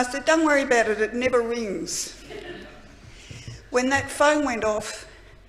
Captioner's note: laughter